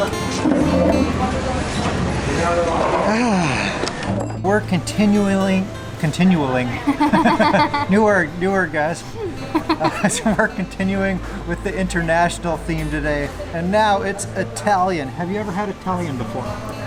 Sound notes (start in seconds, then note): 9.4 laughs